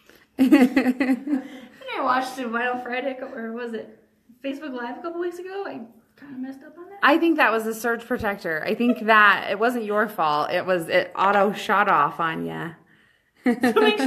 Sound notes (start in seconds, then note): 0.4 laughs; 8.6 laughs; 12.8 chuckle